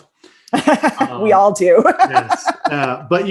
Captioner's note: laughing